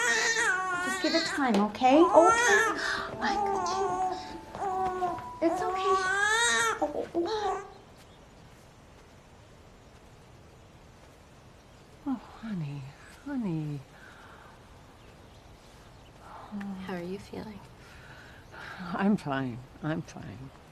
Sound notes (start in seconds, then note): 0.0 crying; 6.2 crying